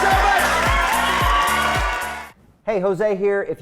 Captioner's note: audience cheering